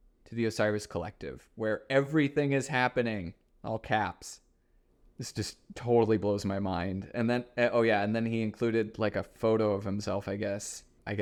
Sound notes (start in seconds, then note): none